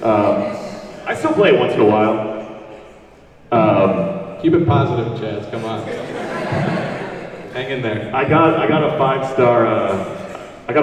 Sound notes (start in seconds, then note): 5.5 audience laughs